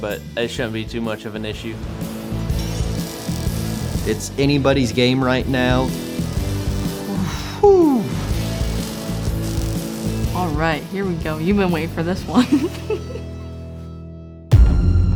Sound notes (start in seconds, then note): 12.3 laughs